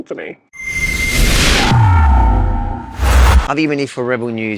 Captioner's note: buzzing sound